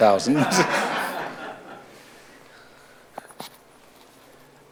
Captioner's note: audience applauds